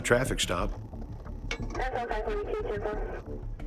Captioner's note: tense music; police radio chatter